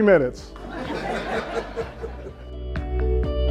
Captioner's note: laughing